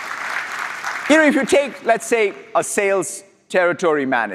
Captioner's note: applause